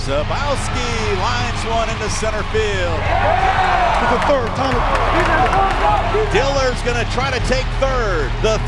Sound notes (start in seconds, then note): 2.7 cheering